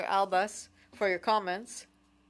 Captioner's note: speaking French